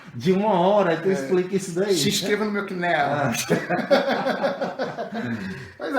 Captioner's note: laugh